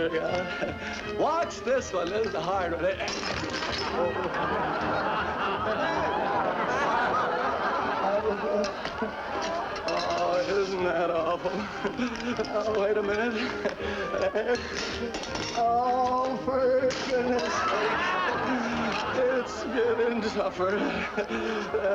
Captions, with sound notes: Watch this one, this is the hard one. [crash] [laughter] Oh, isn't that awful. Oh, wait a minute. Oh, for goodness' sakes. It's getting tougher.